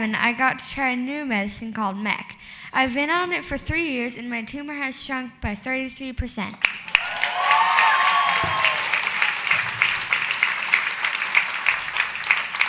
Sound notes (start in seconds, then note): 6.7 audience applause